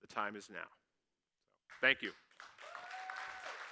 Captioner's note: clapping